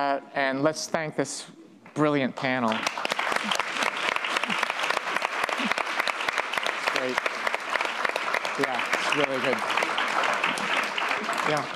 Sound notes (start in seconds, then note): 2.4 applause